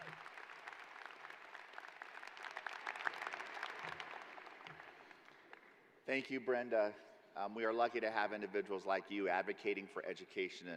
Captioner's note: applause